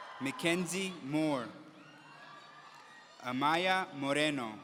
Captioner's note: audience cheering